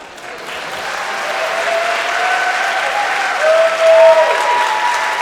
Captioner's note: audience cheers and applauds